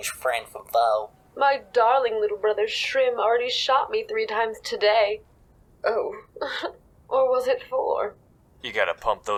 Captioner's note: chuckle